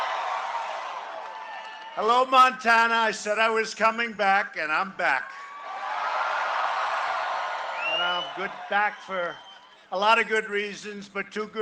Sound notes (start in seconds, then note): 5.2 cheering and applause